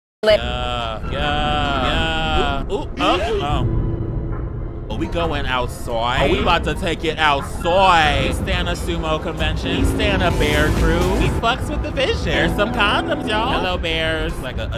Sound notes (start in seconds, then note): 2.6 character screams